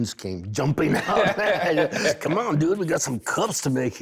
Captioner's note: laughter